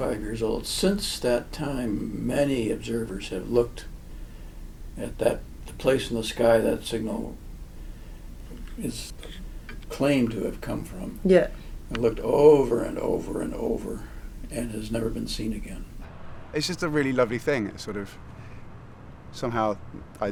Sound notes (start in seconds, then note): none